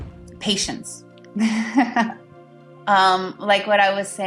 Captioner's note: laughs